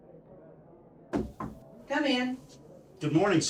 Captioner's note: knocking